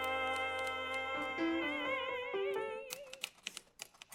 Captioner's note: rhythmic typing; piano playing simple melody